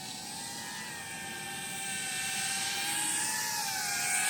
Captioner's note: sound of flying machine